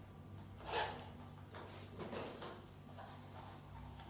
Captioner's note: zipper zipping